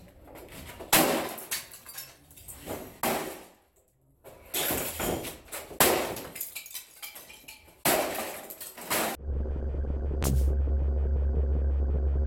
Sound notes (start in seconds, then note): 0.9 whacking; 9.2 techno